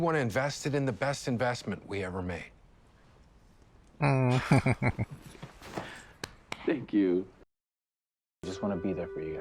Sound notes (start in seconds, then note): 4.0 chuckling